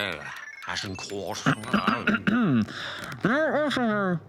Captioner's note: clears throat